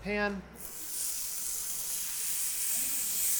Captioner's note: pan sizzles